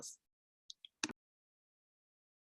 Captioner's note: click